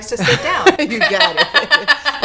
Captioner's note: laughing